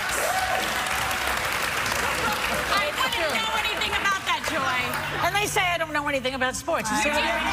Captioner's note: applause